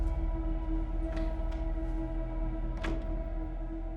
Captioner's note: door opens, closes